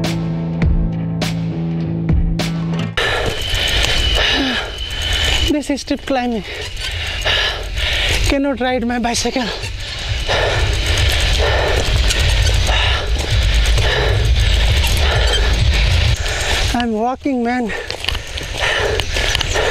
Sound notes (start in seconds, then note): 10.7 cycle Rides Sound; 10.7 deep Breathing